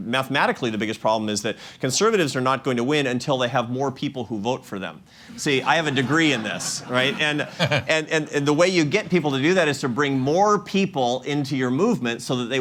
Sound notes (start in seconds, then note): 5.4 laughter